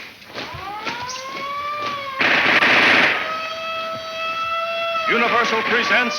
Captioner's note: siren blaring; guns firing